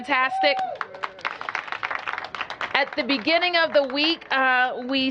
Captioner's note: applause